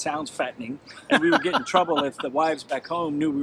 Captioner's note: laughs